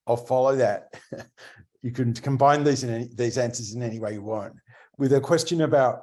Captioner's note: laughs